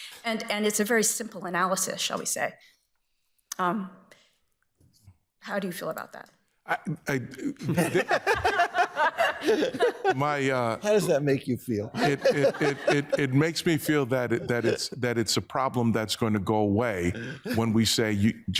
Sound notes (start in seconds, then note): 6.7 all laughing